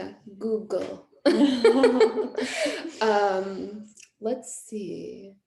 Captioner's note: laughing